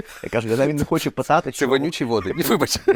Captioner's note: laughs